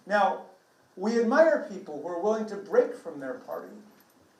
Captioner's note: none